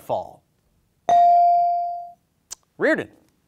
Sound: bell ringing

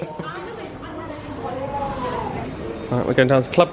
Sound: commuters chatting indistinctly

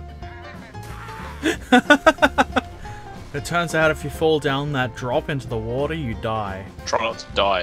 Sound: laughter

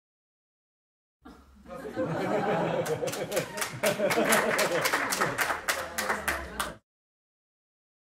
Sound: sound of laugh and applause

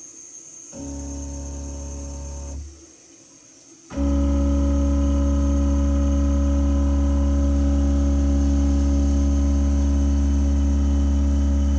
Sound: noise from machine moving

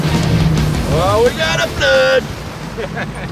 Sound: yelling

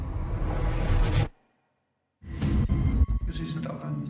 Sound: squieking noise - distorted speaking

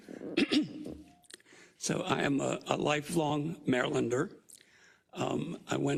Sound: cough

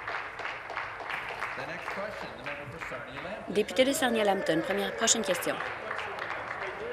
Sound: applause

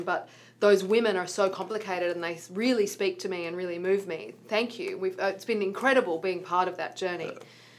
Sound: none

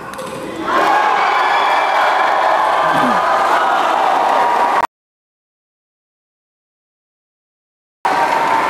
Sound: applause

